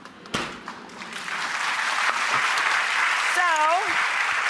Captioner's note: audience claps